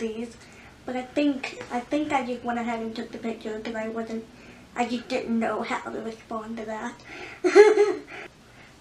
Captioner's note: laughs